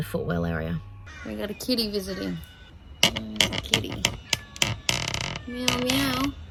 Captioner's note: tripod squeaks loudly; cat meows